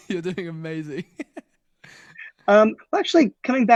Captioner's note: laughs